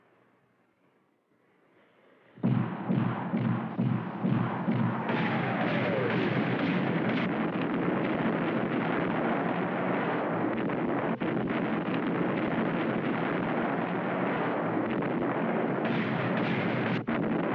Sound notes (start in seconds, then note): 1.4 antiaircraft Gun Firing